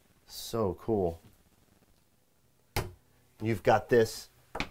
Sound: door slimming

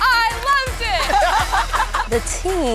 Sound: laughter

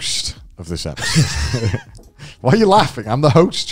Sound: laughing

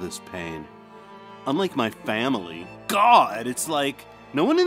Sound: sulkily

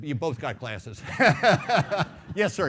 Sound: laughing

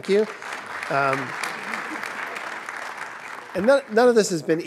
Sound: audience clapping

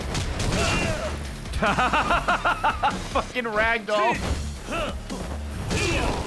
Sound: laughs

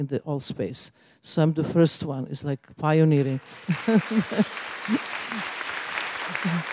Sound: applause

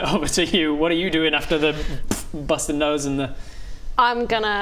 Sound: boof

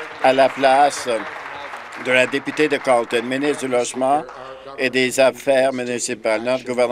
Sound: some Applause

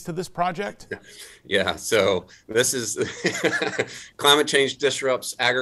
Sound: laughs

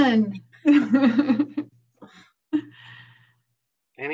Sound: laughter

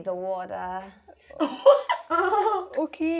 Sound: laugh

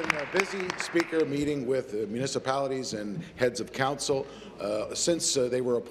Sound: applause

